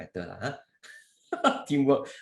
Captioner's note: laughs